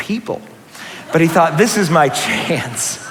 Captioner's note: laughter